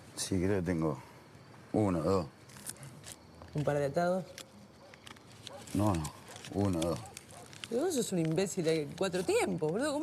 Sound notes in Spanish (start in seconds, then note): 3.5 Turca; 7.6 Turca